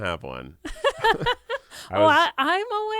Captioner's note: laughs